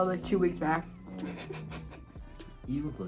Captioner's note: laughs